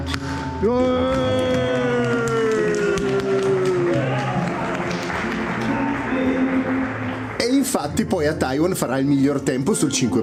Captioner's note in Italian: Applauso